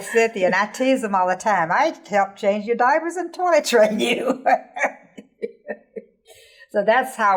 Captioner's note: laughing